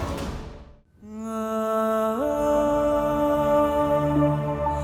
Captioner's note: emotional vocalising